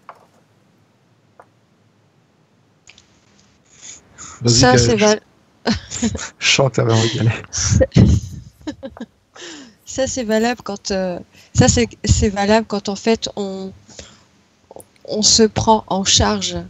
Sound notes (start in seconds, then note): 5.7 laughs